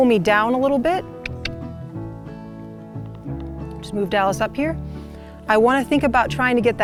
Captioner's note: clicks